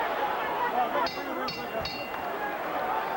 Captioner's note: bell rings